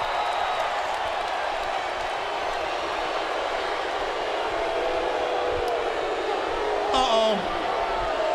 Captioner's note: crowd cheering